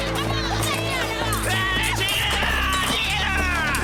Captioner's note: aggressive yelling